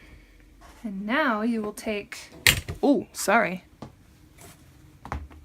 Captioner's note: hits camera stand